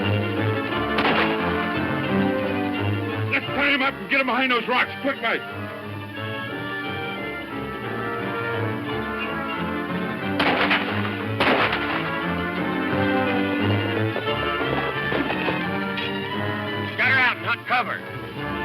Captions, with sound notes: (gun firing) - Let's tie him up and get behind those rocks quickly. (guns firing) - Gather around get cover.